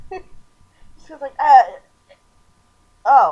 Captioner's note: stammering